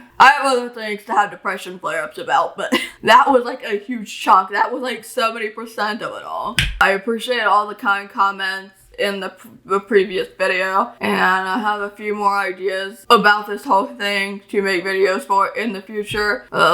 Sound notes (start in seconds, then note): 2.8 laughs; 6.6 slaps hand on desk